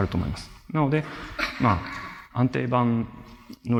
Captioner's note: laughter